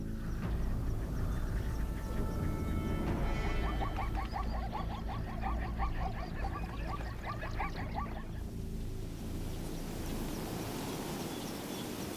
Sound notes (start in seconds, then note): 6.1 barking